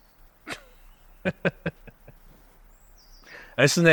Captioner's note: Perez chuckles